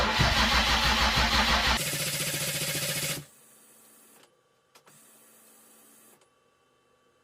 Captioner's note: engine starting